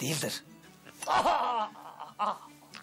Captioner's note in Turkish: Bağırıyor